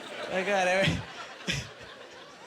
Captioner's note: laughing